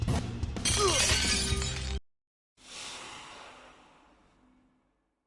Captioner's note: sigh